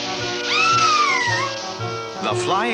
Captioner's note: Sweet Polly Screams